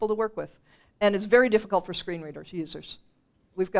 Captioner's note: none